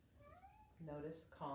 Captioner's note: cat meowing